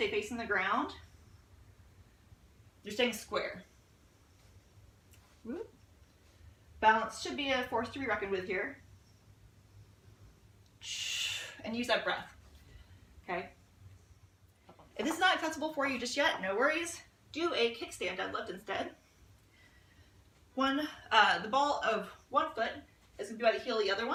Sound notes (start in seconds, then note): 10.9 audible exhale